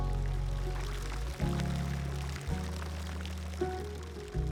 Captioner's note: water fountains splashing